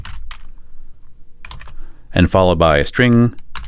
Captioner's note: typing